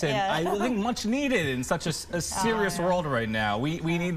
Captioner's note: laughter